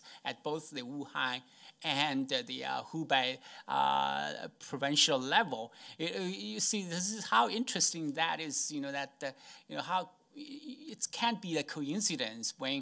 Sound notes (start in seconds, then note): none